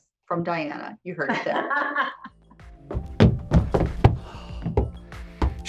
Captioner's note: laughs